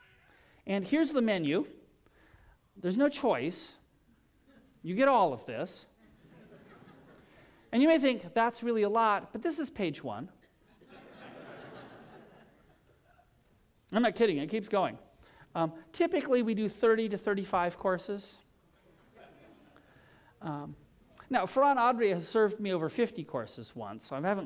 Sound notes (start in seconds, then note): 10.4 laughter